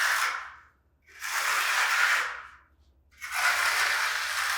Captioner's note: trowel shuffling